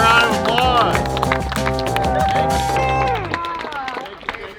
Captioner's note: loud clapping